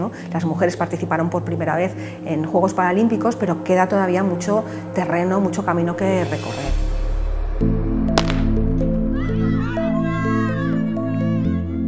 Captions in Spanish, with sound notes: Las mujeres participaron por primera vez en juegos paralímpicos pero queda todavía mucho terreno, mucho camino que recorrer. (Disparo) (Gritos de ánimo)